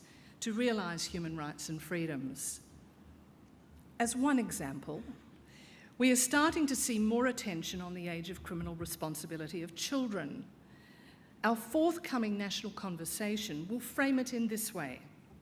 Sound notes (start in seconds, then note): none